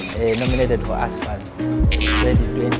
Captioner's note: camera shuttering